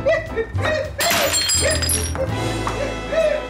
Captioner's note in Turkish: Cam kırılma sesi